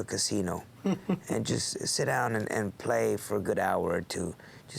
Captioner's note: laugh